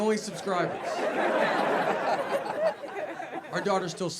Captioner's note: audience laughing